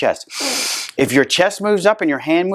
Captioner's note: inhales